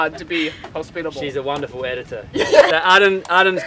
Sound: laughs

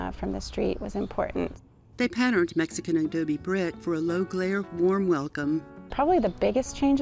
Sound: voiceover

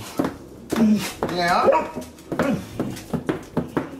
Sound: barking

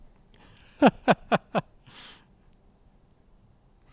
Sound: laughing

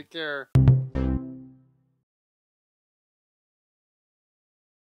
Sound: cheerful tone

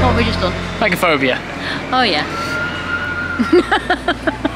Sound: sudden laughter

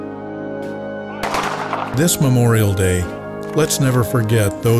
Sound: fire...bang

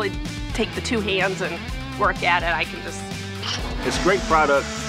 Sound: imitates blower

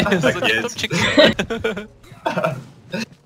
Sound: nervous laugh

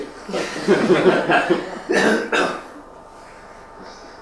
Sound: laughter

